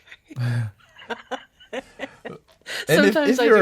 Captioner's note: laughs